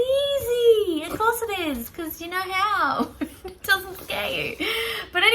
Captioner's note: laughing